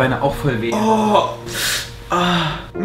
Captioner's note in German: Stöhnen